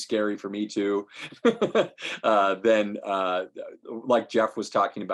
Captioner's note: laughing